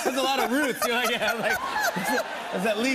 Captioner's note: laughter